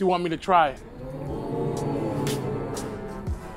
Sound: crowd ooohs

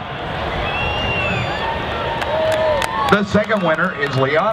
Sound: cheering

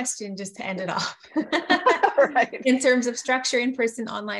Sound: laughter

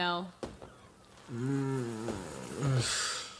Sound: sound of not having good sleep

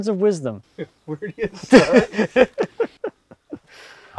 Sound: men laughs

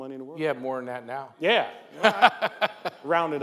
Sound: laughs

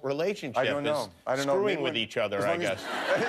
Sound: laughter

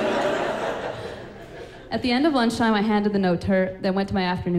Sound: laughing

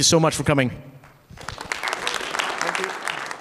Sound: audience clapping

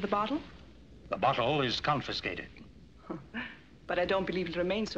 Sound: chuckles

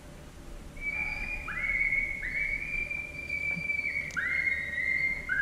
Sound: eastern Cottontail animal call

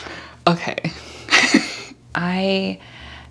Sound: giggles

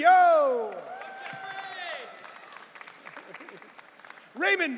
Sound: audience cheering

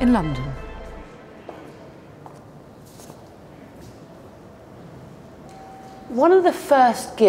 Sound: heels clack; muffled chatter

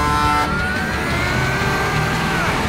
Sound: honking; straining

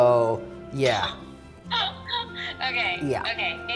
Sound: laughing

